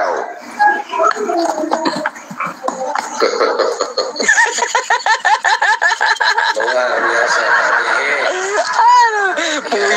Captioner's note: laughs